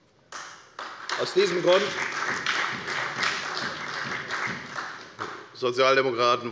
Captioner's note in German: Beifall bei der FDP und der SPD